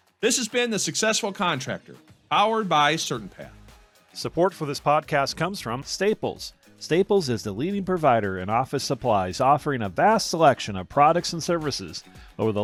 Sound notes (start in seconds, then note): 4.2 voiceover